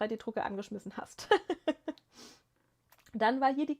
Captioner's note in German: gelächter